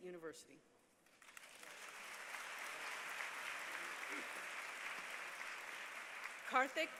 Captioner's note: applause